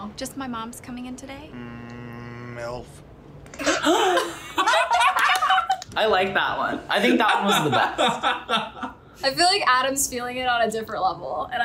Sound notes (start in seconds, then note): 3.3 gasps; 3.6 laughs